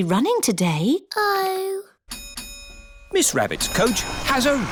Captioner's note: coach bell dings